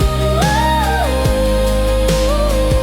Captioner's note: humming